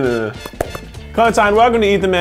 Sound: clapping

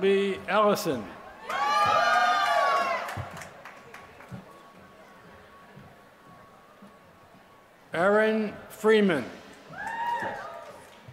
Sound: applause; applause

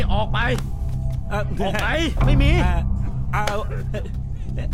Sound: Malay Language

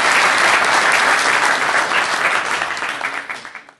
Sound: applause

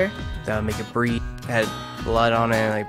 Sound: voiceover

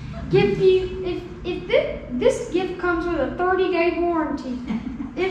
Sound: laughing

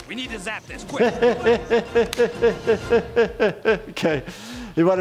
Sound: laughing

